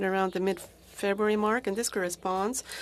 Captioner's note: speaking FRENCH